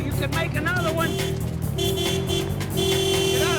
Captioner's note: car horn honking